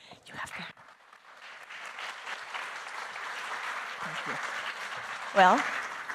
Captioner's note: audience applauding